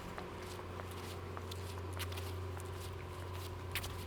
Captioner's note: footsteps tapping